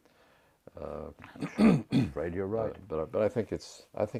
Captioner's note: cough